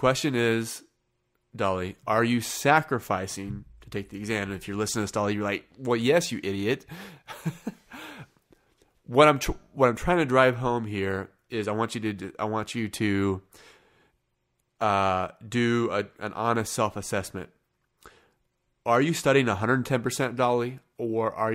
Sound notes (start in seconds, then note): 6.9 chuckling